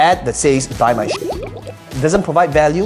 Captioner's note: water bubbling